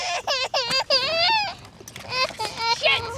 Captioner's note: crying